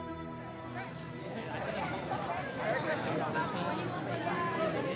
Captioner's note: indistinct chatter